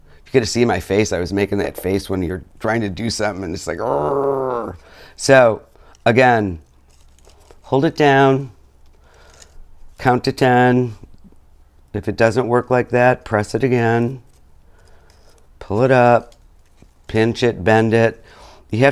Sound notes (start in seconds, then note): 3.8 growls